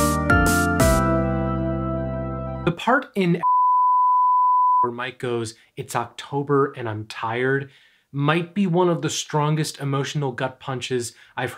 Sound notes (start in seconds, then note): 0.0 upbeat music plays; 3.4 beeps